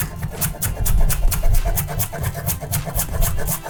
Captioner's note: chop chop chop